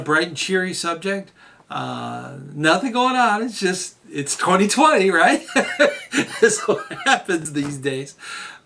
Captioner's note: hahha